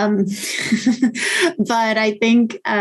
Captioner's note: chuckling